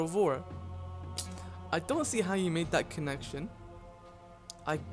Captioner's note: clicks tongue